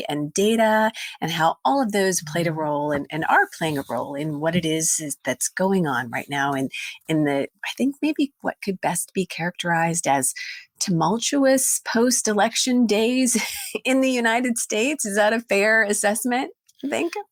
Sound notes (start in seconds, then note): 13.1 laughs